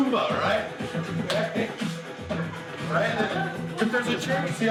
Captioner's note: claps